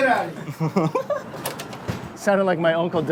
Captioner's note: giggles